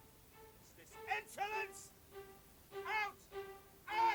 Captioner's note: shouting